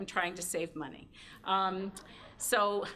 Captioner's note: laughter